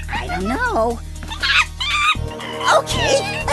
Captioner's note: monkey noises